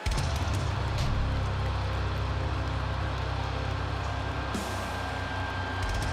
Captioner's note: drums beating; eerie ringing